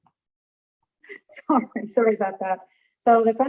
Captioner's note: laughing